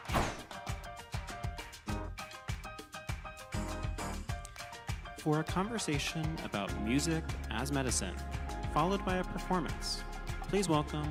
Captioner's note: applause